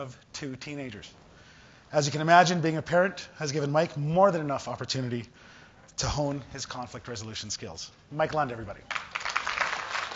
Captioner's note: applause